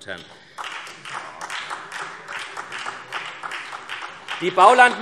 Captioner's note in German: Beifall SPD